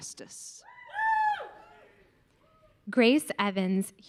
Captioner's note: audience cheering